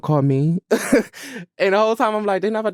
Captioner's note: laughs